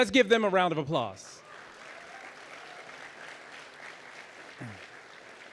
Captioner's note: audience applauding